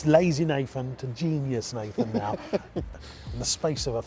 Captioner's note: laughing